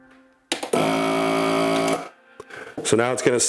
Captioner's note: machine buzzing